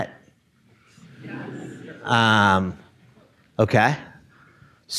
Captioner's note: audience laughing